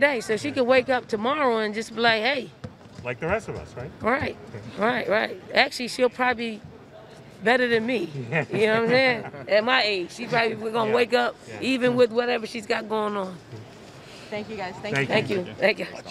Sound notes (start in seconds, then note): 8.1 reporters laughing